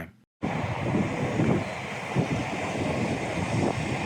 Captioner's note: wind whooshing